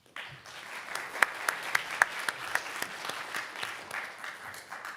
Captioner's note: audience applauding